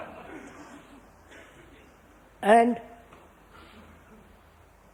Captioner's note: laughter